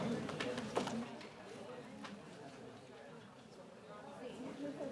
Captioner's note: audience chattering